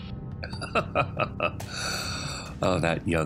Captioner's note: laughs